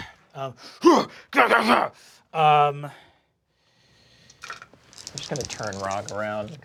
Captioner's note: grunting and growling